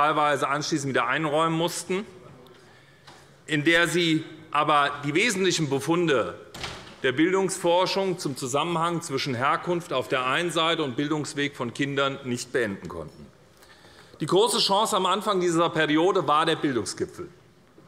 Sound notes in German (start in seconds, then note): none